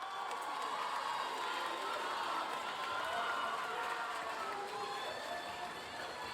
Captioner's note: audience applauding; audience cheering